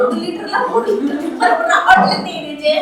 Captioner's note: laughs